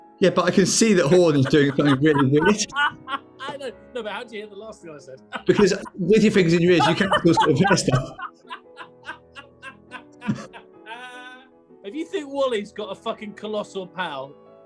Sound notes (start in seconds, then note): 3.4 laughing; 5.3 laughing